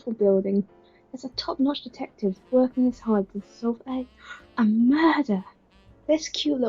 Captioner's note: gasp